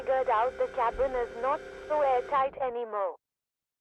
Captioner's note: voice on radio